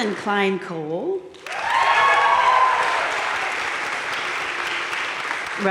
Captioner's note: crowd cheering and applauding